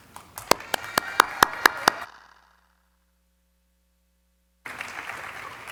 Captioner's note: audience clapping; audience cheering; audience clapping